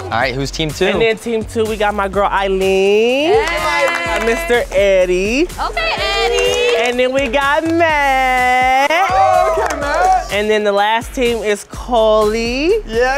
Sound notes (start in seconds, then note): 6.0 housemates clapping; 8.9 housemates cheering